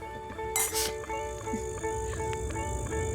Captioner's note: glasses clink; wildlife chirping